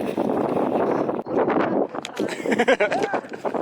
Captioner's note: windy; laughing